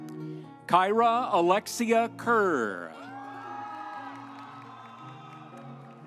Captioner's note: audience cheering